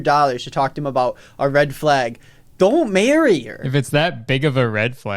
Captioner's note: none